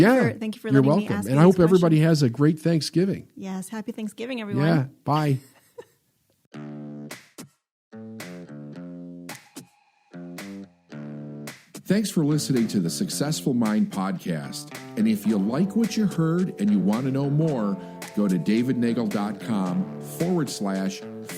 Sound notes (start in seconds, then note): 5.4 laughs; 7.8 upbeat music